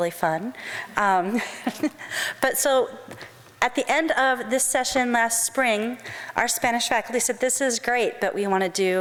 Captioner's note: laughs